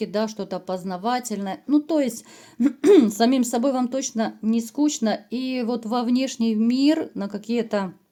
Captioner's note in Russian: откашливается